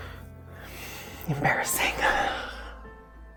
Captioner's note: sighs